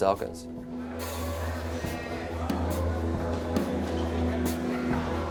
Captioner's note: background chattering; light music